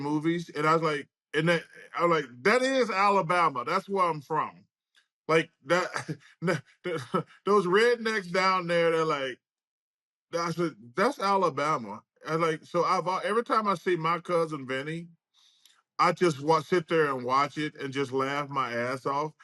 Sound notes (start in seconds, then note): 6.8 chuckles